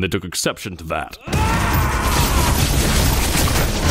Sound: gunfire, flesh tearing

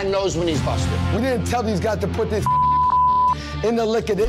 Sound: beep

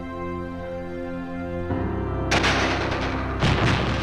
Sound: machine-gun fire, explosion

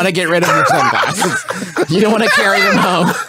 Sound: laughing

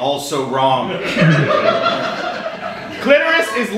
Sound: audience laughing

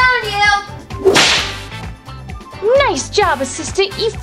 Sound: whip cracks

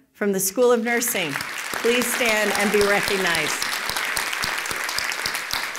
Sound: applause

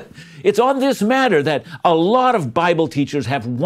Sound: chuckles

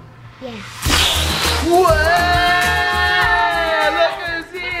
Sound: everyone shouting

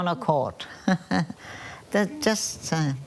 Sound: laughs

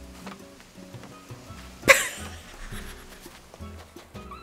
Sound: laughing

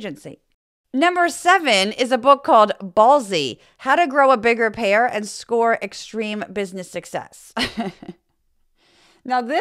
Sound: laugh

